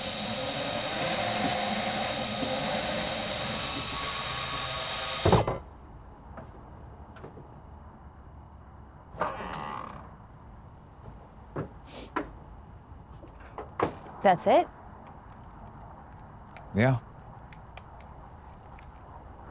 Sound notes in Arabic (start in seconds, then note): 2.8 قفل القفل